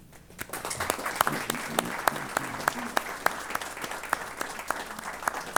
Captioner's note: applause